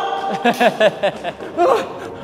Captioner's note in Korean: 장난스러운 웃음